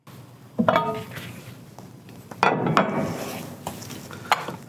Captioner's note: clanking noises of metal on metal